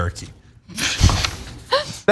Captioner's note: laugh